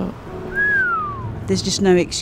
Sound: whistles

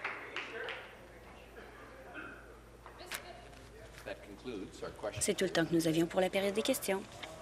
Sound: some applause

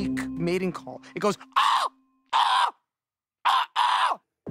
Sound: screeches; screeches

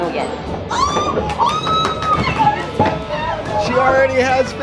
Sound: screaming

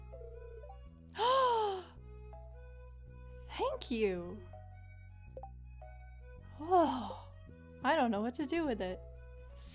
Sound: gasp

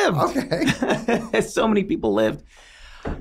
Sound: both laugh

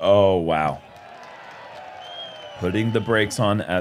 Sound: cheering

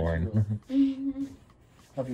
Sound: laughs

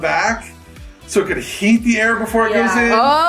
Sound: laughing

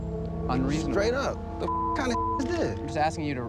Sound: beeping

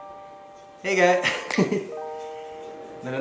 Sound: chuckles

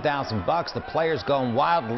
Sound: cheers

